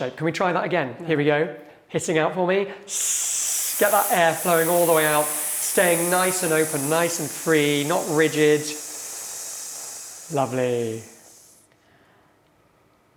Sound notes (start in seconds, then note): 2.8 students hissing